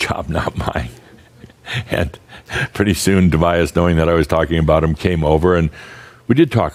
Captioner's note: Adamus chuckles